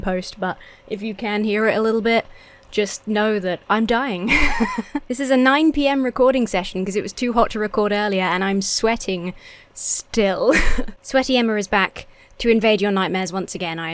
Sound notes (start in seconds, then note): 4.2 laughs; 10.5 chuckles